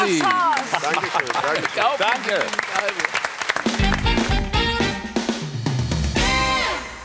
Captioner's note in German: Applaus